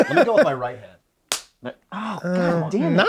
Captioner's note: laughs